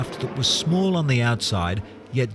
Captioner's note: plane descending